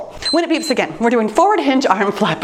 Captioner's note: timer beeps